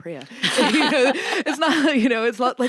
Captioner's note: laughs